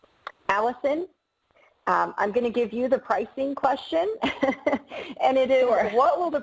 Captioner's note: laughs